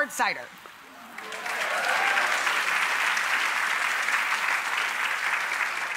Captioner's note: audience applauding